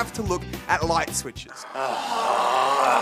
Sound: all groan

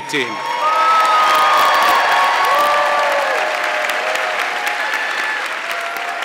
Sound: audience clapping and cheering

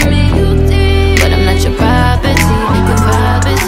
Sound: crowd noise

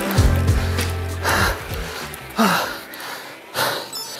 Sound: panting

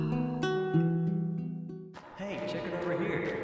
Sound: offscreen footsteps

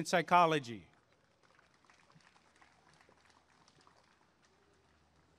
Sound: applause and cheering

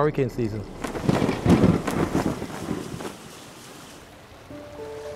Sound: thunder crackles, rain splatters

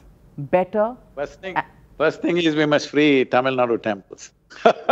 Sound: laughs

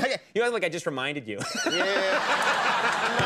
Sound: laughing

